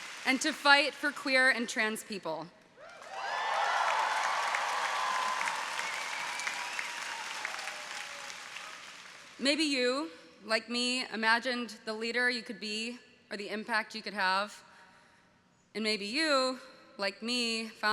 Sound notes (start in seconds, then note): 2.8 audience cheering